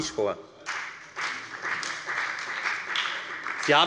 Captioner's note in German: Beifall bei der FDP und bei Abgeordneten der SPD